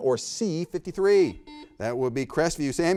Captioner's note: buzzer beeping